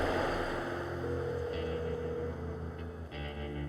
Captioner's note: phone ringing